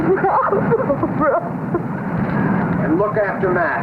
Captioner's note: woman sobbing